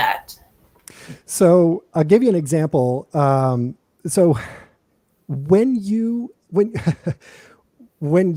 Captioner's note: laughter